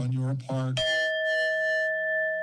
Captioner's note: bell rings